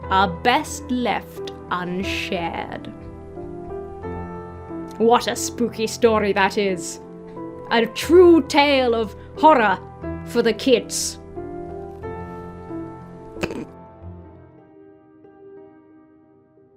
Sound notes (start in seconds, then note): 13.3 snorts; 14.3 introspective music